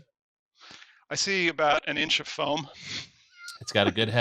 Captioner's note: chuckles